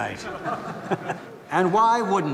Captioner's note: para tamu tertawa